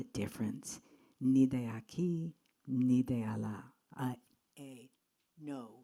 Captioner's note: speaks in Spanish